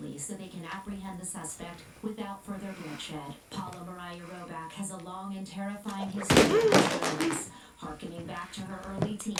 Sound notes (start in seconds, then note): 6.2 clattering